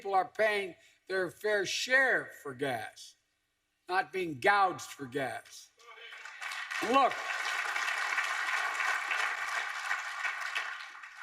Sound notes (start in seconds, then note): 6.0 applause